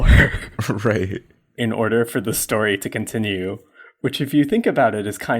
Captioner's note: laughs